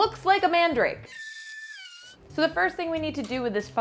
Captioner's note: mandrake squeals